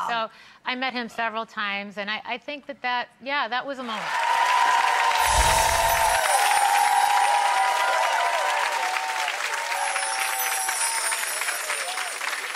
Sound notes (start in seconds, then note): 3.9 audience cheering and applauding; 9.9 twinkling music